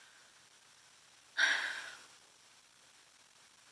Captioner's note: 𝘴𝘪𝘨𝘩